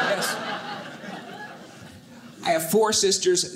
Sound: audience laughing

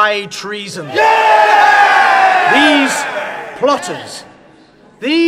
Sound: A crowd roars in approval

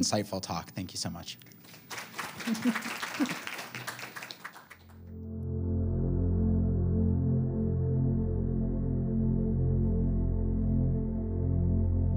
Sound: applause

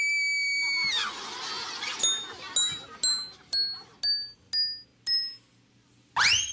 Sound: screams

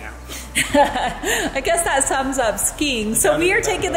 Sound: laughs

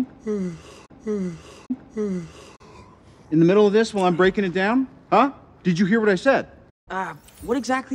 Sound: yawn

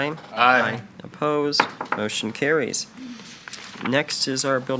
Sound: gavel taps

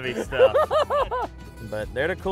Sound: laughs

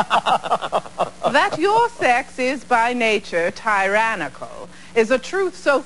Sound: laughter

